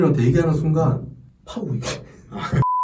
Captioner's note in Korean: ㅋㅋ